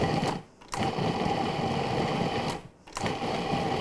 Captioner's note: mixer whirring